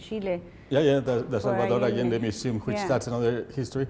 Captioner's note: speaking Spanish